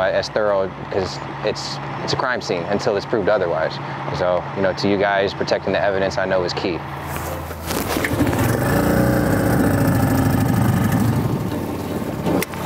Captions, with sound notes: as thorough 'cause it's a crime scene until it's proved otherwise so, you know, to you guys, protecting the evidence I know is key. (boat motor revving)